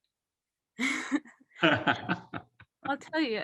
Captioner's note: laughing